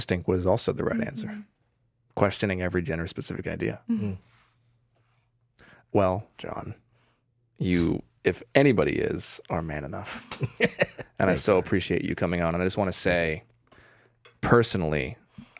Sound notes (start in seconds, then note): 10.0 Jon laughs